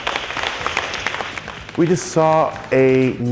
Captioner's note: clapping